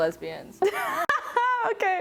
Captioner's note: laughing